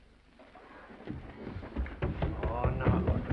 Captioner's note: footsteps receding